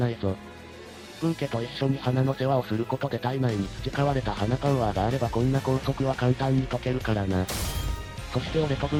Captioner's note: snap